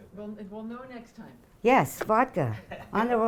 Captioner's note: voiceover